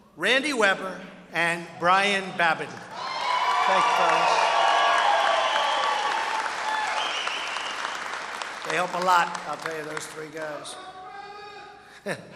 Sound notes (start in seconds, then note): 2.4 applause